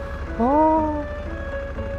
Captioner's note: exclamation